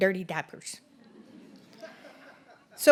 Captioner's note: audience Laughter